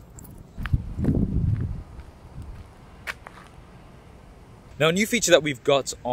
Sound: keys jangling; wind blowing; footsteps crunching

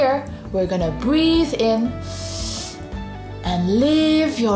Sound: breathes in deeply

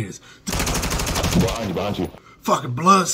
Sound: imitates gunshots

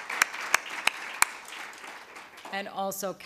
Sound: applause

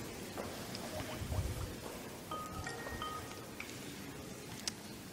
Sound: Skype dial tone

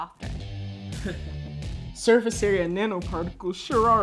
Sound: chuckle

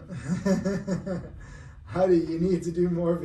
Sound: laughs

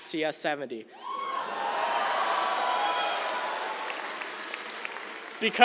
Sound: cheers, applause

